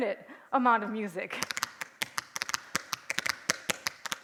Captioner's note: tapping